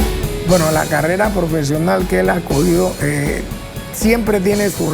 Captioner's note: speaking Spanish